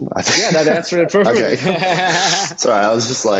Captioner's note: laughing